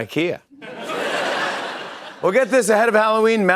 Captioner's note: laughter